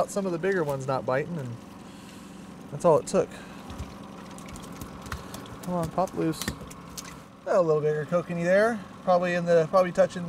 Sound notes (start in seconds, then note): 5.1 fish thrashing